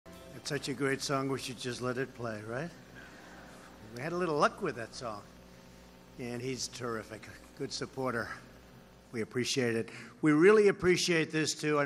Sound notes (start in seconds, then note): 2.9 laughter